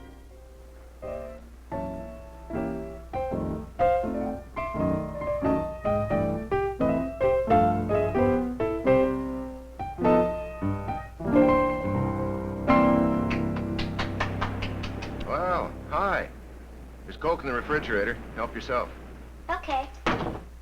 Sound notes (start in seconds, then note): 0.1 light jazzy music playing; 13.2 Sandy applauding